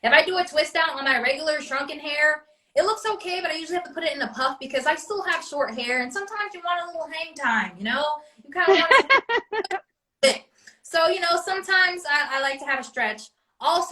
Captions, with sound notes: If I do a twist out when my regular shrunken hair, it looks okay, but I usually have to put it in a puff because I still have short hair. And sometimes you want a little hang time, you know, you kinda want to, (laughs) So, you know, sometimes I, I like to have it stretched.